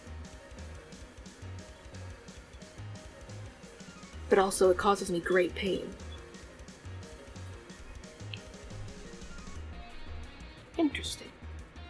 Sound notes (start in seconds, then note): none